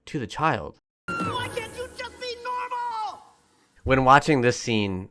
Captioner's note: kid screams; Dad in Float, yelling